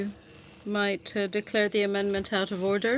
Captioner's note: speaking in french